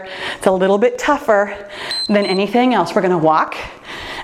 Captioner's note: timer beeps